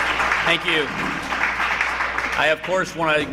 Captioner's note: applause